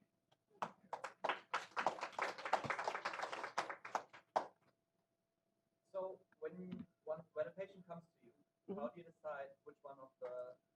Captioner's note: applause